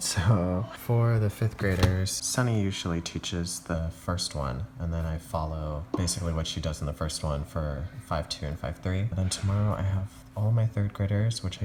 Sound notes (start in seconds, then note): none